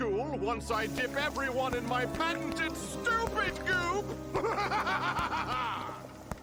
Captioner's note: смех